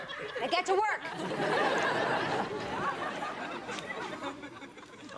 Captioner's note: audience laughs